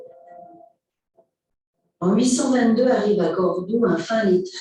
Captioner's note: non-english speech